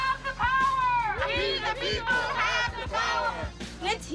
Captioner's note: crowd chanting